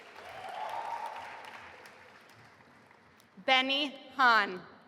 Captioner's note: audience applauding and cheering